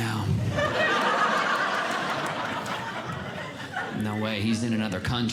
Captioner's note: audience Laughing